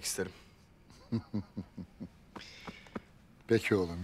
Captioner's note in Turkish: Gülme sesi